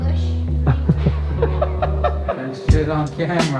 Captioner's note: laughing